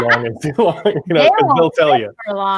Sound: all chuckle

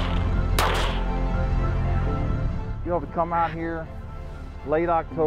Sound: gunshots

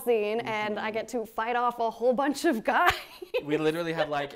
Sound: laughs

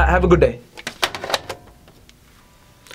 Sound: receiver thuds

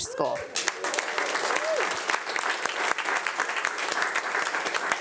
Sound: audience applauding

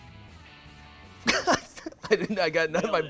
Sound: laughing

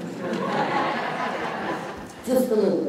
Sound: laughter

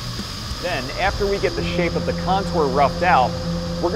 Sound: machining noises

